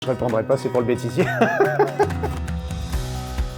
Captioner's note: laughs